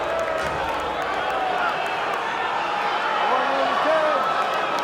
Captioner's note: crowd boos